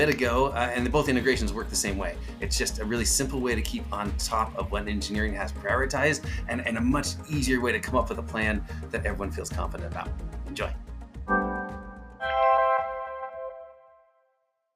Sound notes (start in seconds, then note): 11.3 graphic chiming